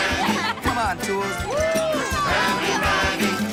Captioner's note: Tools cheer